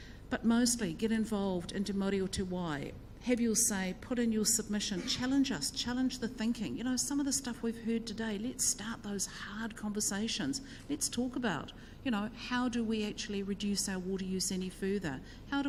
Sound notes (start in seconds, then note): 2.4 speaks in foreign language